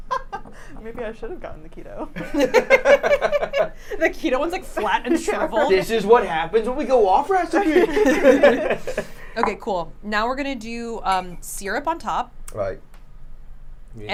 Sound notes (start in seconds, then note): 2.2 laughing